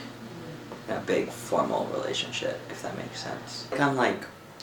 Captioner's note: none